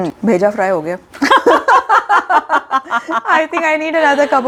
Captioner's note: both laugh